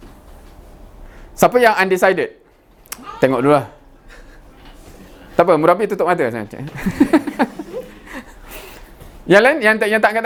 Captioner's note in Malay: ketawa